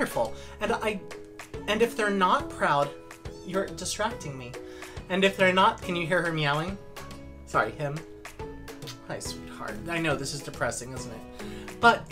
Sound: meow

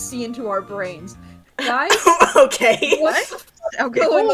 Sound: laughing

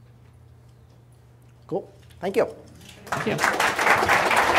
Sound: applause

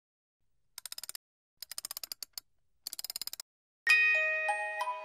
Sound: music box clicking; gentle music

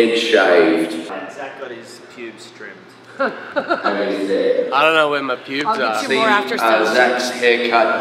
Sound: laughter

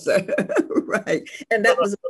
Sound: laughs

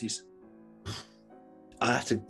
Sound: exhales

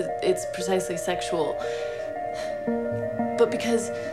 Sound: sigh

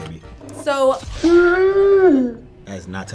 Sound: gagging

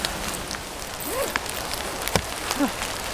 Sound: zipper

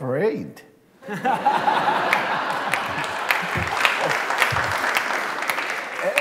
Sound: laughter

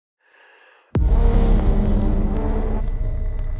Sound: inhales; static buzzing

